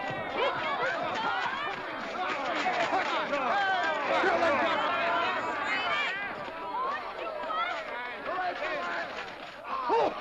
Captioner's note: hooves pounding; shouting & clamoring; men laugh